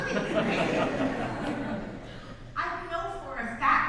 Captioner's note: audience laughs